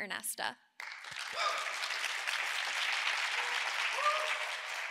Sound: audience cheering

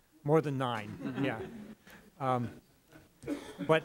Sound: laughter

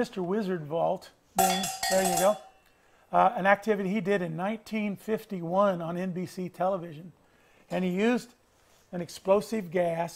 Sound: ringing

